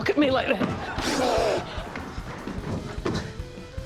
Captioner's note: blows